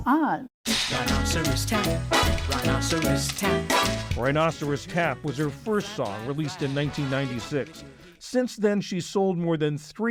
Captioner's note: voice-over